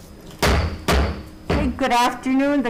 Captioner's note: gavel bangs